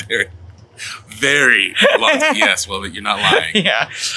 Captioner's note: both laughing